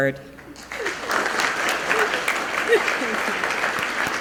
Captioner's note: clapping